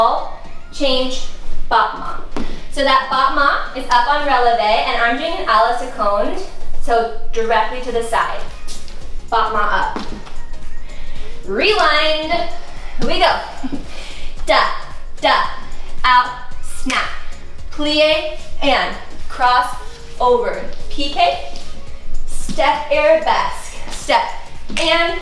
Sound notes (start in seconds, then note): 16.7 fingers snap